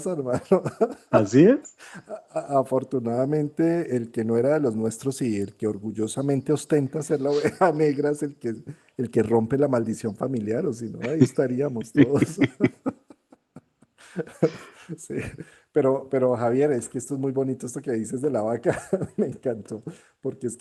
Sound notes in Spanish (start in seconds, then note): 0.0 risas; 14.6 risas